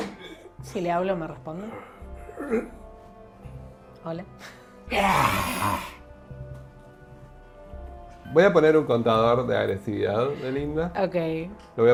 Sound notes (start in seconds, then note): 4.9 snarls